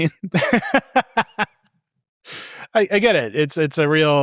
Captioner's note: laughing